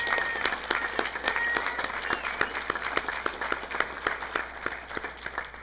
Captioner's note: audience applauding